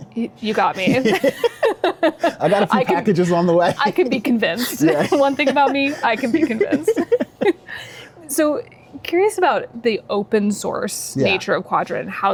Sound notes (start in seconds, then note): 1.0 both laugh; 3.5 laughing; 7.6 both laughing